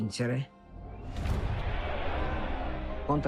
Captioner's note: yelling